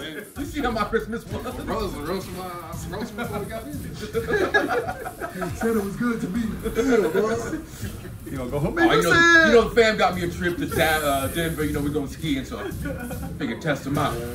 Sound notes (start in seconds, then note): 3.0 laugh